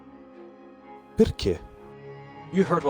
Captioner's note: renzo speaks italian